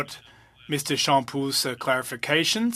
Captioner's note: speaking French